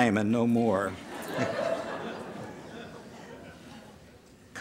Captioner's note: laughter